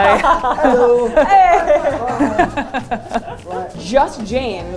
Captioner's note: laughter